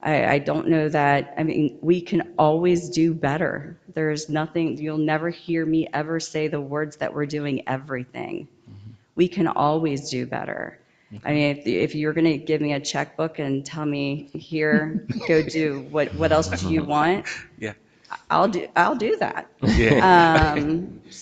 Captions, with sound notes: I don't know that, I mean, we can always do better. There's nothing, you'll never hear me ever say the words that we're doing everything. We can always do better. I mean, if you're gonna give me a checkbook and tell me, "Here go do, what else do you want?" (people chuckle) I'll do that.